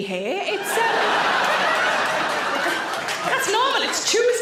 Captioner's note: audience laughs